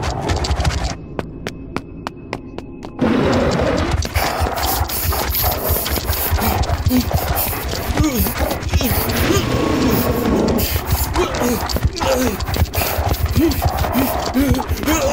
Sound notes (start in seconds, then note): 3.4 scorpion growls; 8.4 Papi grunts; 10.1 scorpion growls; 12.4 Papi grunts